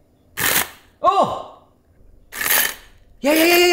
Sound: chopper whirs

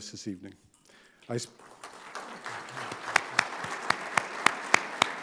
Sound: audience applauding

